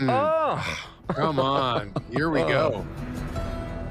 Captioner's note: laughs; music fades